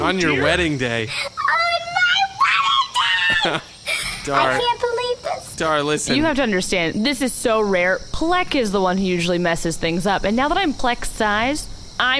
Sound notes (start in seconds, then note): 3.8 deep breath, speaking normally now